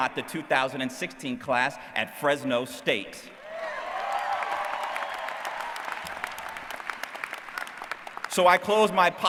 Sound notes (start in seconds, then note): 3.8 applause